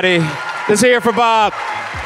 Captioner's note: audience applause